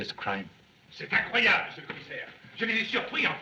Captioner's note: excited discussion